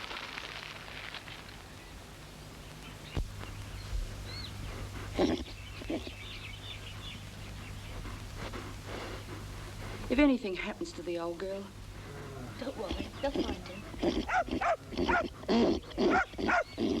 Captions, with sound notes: (Diamond whickering) - If anything happens to the old girl... - Don't worry, they'll find him. (dog barking)